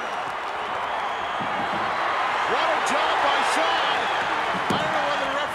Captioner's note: applause